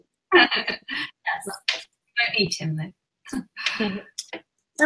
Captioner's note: laughs